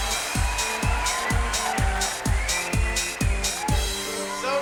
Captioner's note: applause; upbeat music